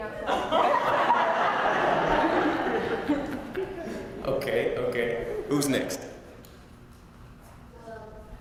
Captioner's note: laugh